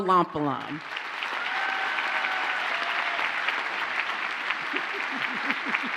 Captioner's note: audience cheers and applauds